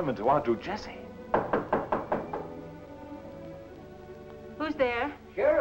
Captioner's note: knocking